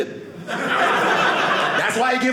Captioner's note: audience laughing